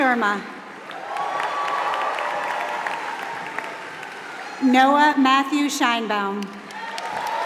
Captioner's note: applause; applause